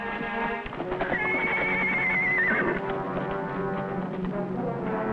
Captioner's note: horse whinnying; intense dramatic music